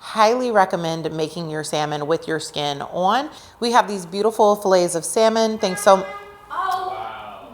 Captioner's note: honking in background